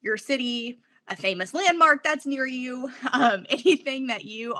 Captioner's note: laughs